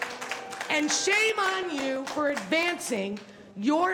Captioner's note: applause